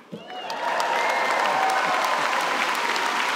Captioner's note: applause